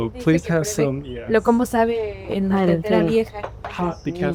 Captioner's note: and translator speaking spanish